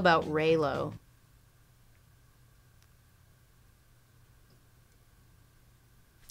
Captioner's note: silence